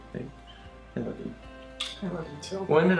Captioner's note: kisses